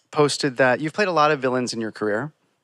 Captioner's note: none